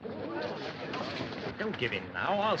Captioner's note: appreciative crowd noise